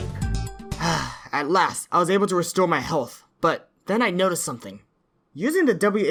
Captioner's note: sighs